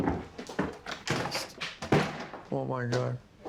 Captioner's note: bangs door